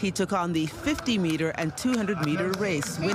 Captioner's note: applause